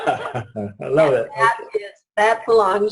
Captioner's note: laughs